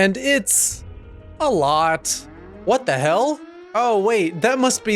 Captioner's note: alarm noise